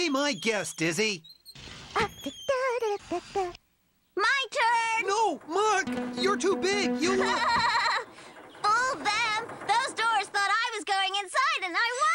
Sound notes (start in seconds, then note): 7.0 laughing